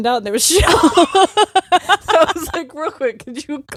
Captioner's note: both laughing